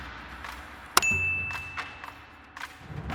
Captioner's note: typewriter clicking; bell dings; upbeat music